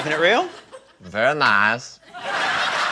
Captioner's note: imitates borat; laughter